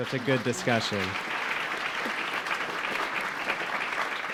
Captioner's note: audience applauding